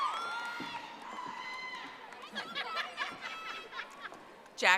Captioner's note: audience applauding